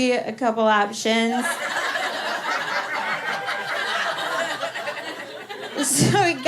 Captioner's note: laughter